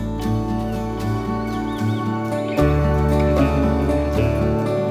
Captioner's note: birds chirping